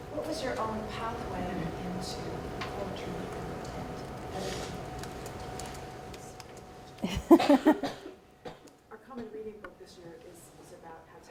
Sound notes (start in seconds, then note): 7.0 laughs